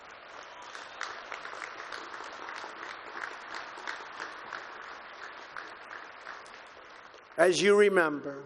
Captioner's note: applause